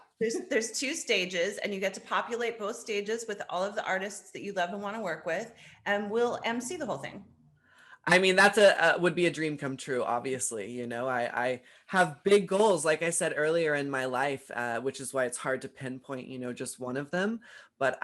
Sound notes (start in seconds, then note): none